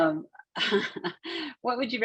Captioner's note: chuckles